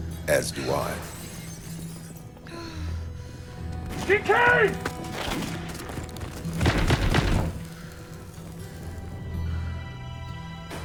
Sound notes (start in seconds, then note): 6.5 banging on door